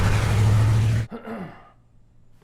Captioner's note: clears throat